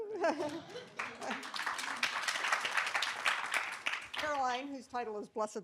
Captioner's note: applause